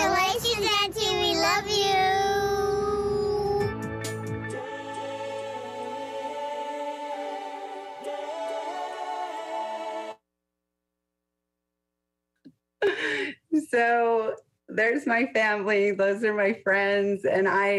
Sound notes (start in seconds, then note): 3.6 upbeat music; 12.7 laughs